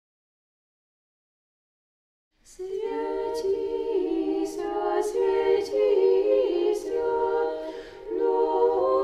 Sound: chanting

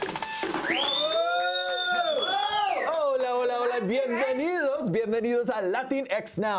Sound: Exclamaciones

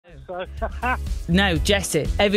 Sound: laughter

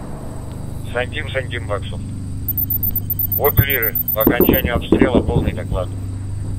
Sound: radio exchange

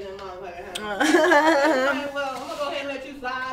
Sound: both laugh

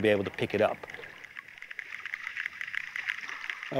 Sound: clicking

